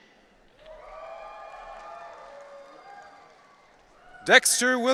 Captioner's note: audience cheering